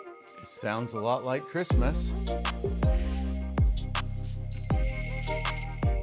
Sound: bells Jingling

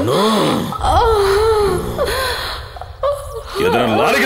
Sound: groans

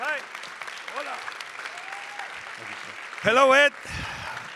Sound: audience applauding

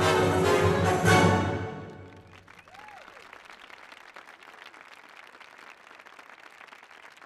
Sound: applause

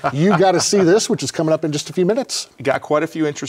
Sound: laughs

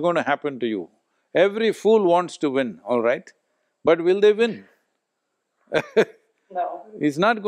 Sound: laughs

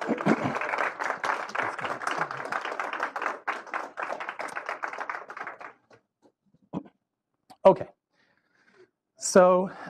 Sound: applause

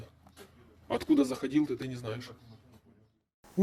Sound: interrogating a POW in Russian

